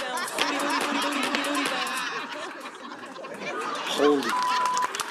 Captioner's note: upbeat music; audience laughing; beep